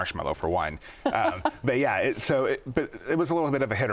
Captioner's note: laughs